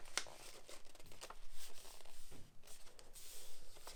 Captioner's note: paper rustling